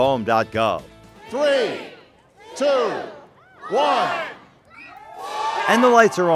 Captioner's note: cheers